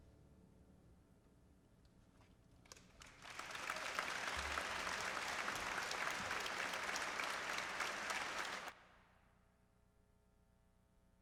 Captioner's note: applause